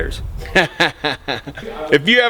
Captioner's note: laughing